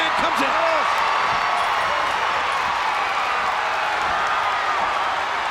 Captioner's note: crowd cheering